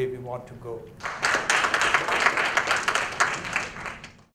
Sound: applause

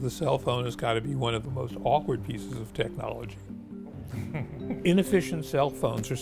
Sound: chuckles

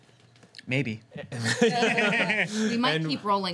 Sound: group laughs

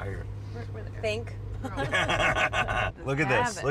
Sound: everyone laughs

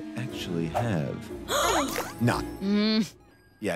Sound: gasping

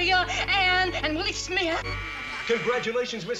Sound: buzzer

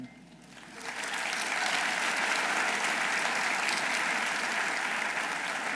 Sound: audience applauding

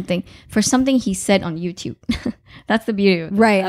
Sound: laughing

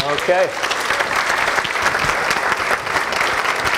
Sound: applause

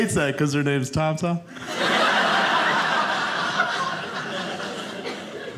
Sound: audience laughing

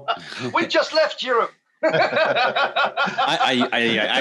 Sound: laughter

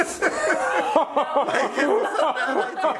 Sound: Shane laughs

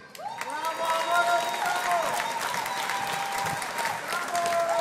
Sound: audience applauding

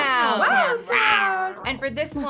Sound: growls

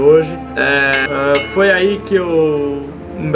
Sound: double ding!

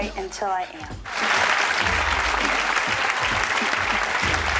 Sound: applauding

